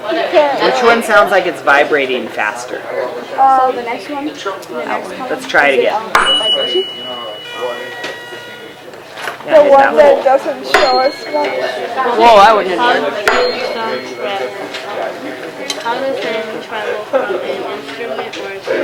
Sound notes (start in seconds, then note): 6.1 rings tuning fork, buzzes on paper; 13.2 rings tuning fork